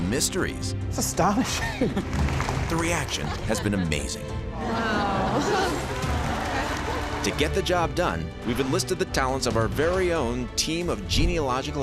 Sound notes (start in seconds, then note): 5.6 applause